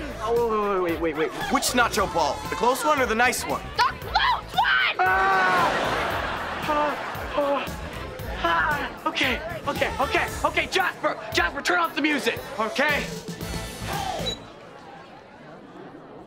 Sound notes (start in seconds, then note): 4.6 screaming; 6.3 groaning